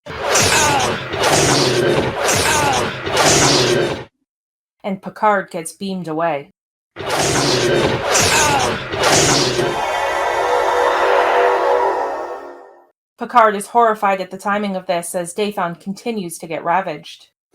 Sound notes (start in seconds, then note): 6.8 transporter beam